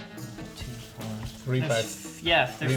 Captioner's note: quietly counts